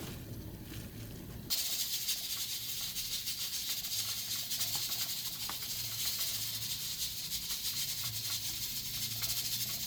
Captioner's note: sound of meat cooking